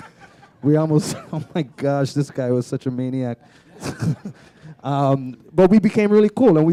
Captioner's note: laughter; chuckle